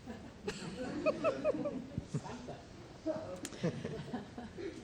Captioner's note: crowd laughs